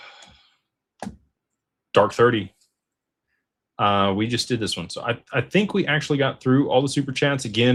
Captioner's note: sighs